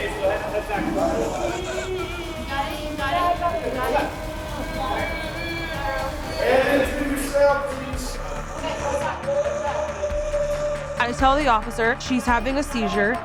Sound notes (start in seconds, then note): 1.7 groaning